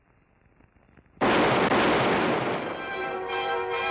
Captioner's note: firing